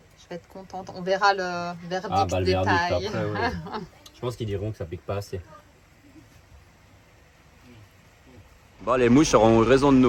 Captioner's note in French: rires